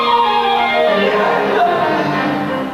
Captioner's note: British Admiral growls, scaring Abe